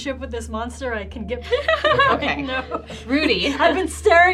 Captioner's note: laughs